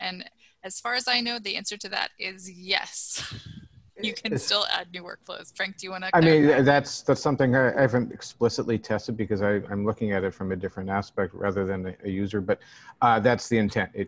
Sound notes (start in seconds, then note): 4.1 laughter